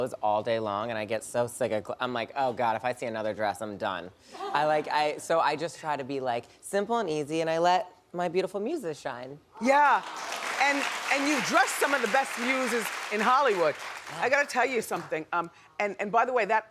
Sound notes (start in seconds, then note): 9.7 applause